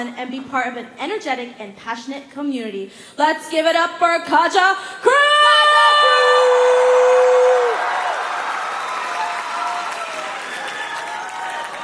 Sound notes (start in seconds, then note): 5.2 cheering; 6.2 applause